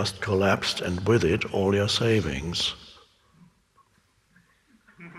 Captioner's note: laughs